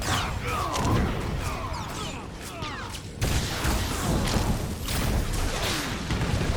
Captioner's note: gunshots